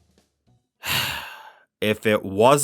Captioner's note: sighs